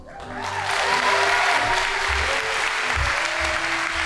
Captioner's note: audience applauding